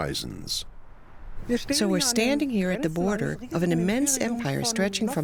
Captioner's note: in German